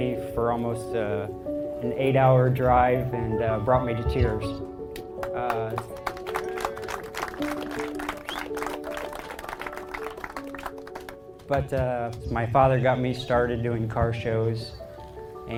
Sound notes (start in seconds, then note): 4.9 crowd clapping